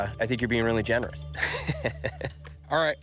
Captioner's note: chuckles